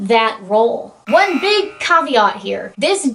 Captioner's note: alarm sound